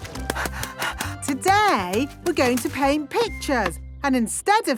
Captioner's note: panting